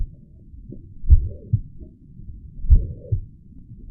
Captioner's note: heart beating